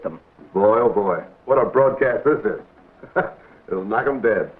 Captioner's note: laughs